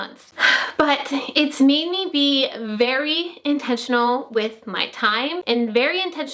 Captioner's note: sighs